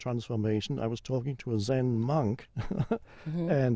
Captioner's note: chuckles